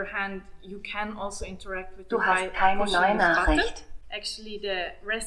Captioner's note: device speaking in German